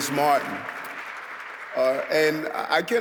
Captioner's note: audience clapping